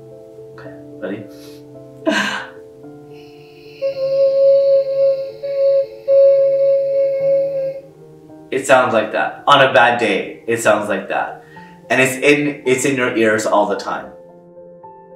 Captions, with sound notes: (humming) It sounds like that on a bad day, it sounds like that. And it's in your ears all the time.